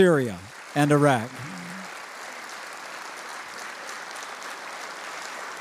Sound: audience applauding

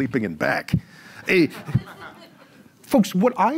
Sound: audience laughs

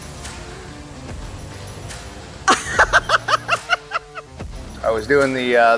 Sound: laughter

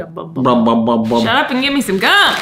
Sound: both making the sound of letter B repeatedly

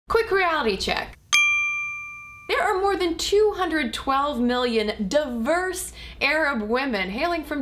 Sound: bell chimes

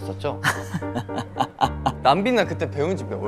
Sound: laughing

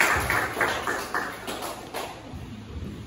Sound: clapping

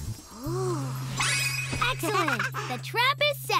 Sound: chuckles

